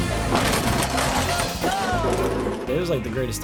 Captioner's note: bumper creaking